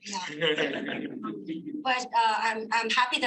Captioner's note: audience laughing